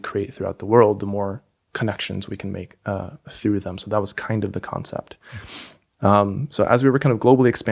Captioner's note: inhales